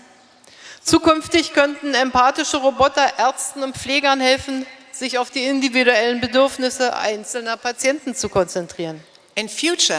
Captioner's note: speaking in German